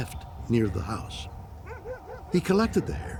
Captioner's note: dog barking in distance